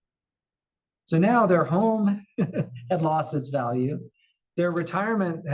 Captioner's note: laugh